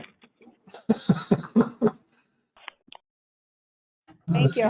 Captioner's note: laughter